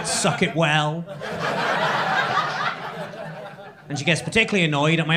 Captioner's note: crowd laughing